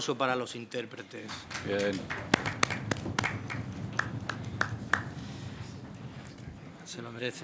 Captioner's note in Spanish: Aplausos